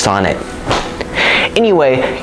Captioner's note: slap